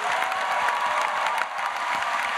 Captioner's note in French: Acclamations